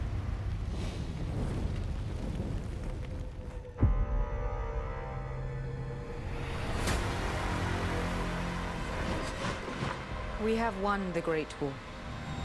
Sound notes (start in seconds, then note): 0.0 fire crackling; 6.7 dramatic music plays